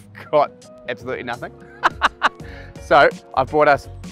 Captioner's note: laughs